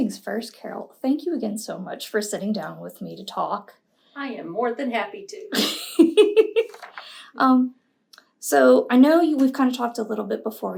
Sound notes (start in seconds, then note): 5.6 laughs